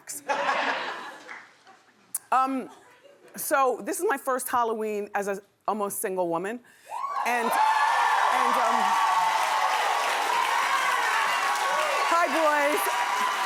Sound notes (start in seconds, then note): 0.2 laughing; 6.9 cheering